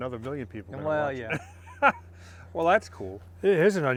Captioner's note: laughs